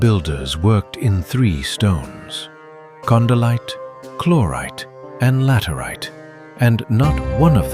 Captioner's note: thoughtful